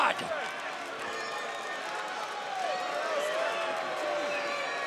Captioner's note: crowd boos